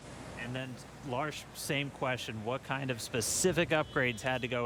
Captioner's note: none